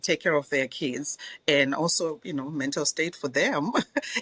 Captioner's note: laughs